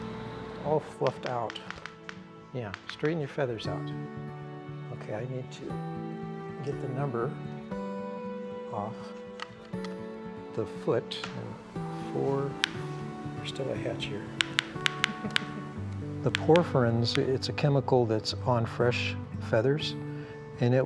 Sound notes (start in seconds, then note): 1.1 bill clicks; 14.3 bill clicks